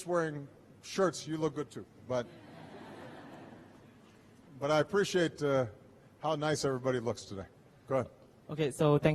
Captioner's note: laughter